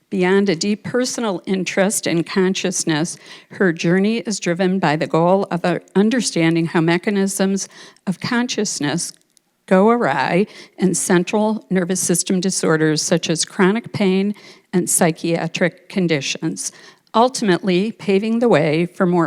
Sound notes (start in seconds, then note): none